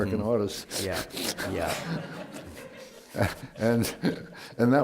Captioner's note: laughter